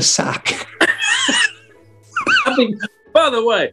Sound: laughter

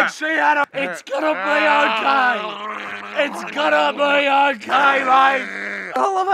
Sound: gargling sounds

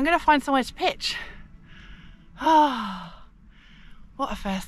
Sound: happy sigh

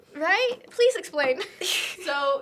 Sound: both chuckle

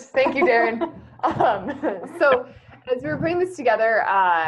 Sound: laughing

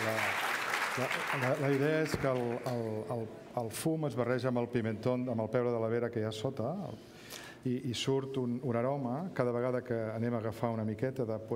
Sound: speaking catalan

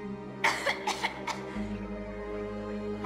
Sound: cough

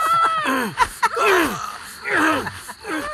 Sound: grunting

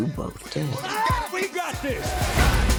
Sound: screams

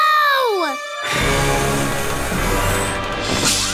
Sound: blowing

